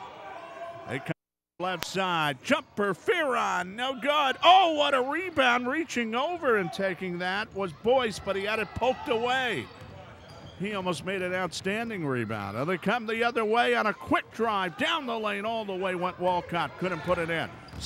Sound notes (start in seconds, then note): 9.4 ball pounding; 9.4 yelling